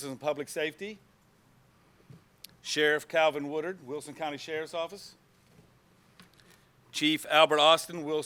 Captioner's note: none